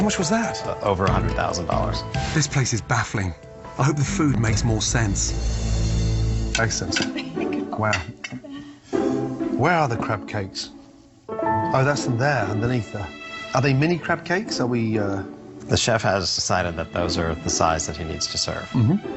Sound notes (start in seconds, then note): 8.3 laughing